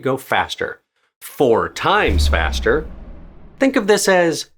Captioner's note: dramatic boom